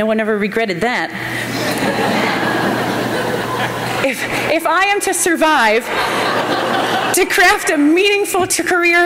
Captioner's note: laughter